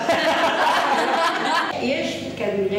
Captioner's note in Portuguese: risos